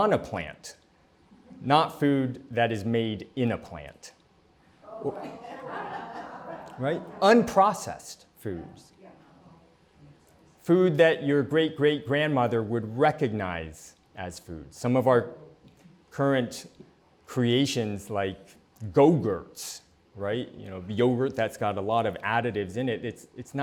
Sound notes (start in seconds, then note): 4.9 laughter